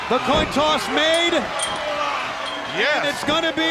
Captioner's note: chain rattling